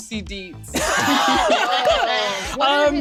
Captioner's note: laughs